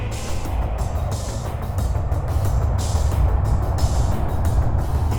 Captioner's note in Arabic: محرك الطائرة هدير